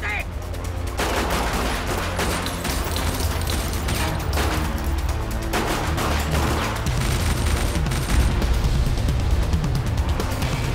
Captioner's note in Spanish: Disparos